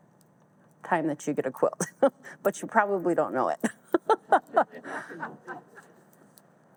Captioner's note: all laugh